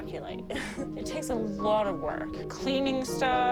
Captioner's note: chuckles